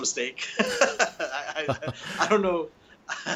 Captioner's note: both chuckling